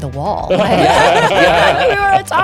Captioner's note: all laughing